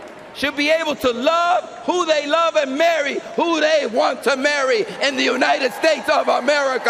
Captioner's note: cheering and applause